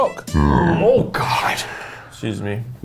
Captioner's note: burps